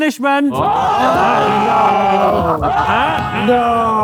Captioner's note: group yells